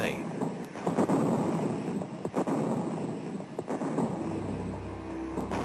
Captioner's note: heavy artillery booming